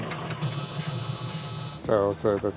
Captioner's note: electronic buzzing